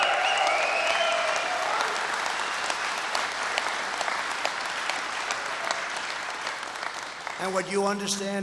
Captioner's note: applause